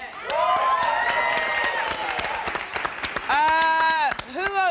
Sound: audience applauding

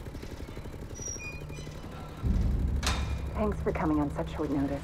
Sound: gate closing

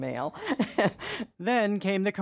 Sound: laughter

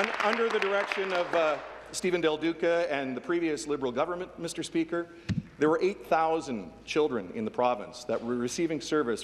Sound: applause

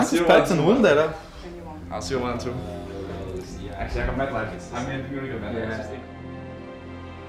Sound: team chatter

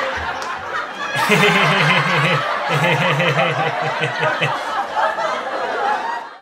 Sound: enrique chuckles nervously

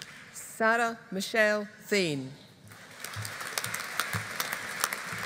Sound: audience applauding

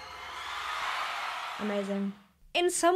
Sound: crowd cheering

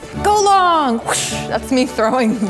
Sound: whooshing

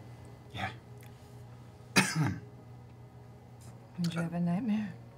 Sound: coughs

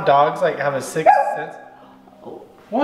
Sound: dog barks

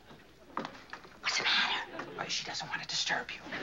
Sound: whispers

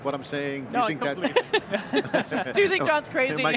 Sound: all laughing

